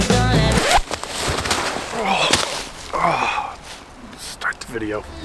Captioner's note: slipping feet